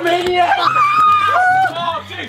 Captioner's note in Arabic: صراخ